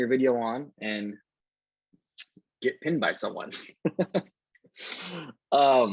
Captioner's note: laughs